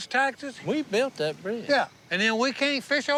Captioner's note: none